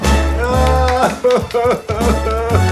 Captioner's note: upbeat music; woman cries; woman claps